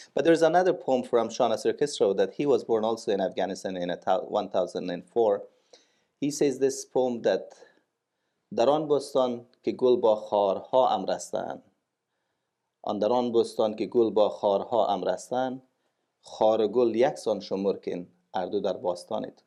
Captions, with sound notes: But there is another poem from Nasir Khusraw, he was born also in Afghanistan in 1004. He says in this poem that... [Speaking in Farsi]